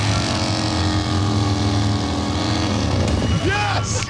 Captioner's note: revs engine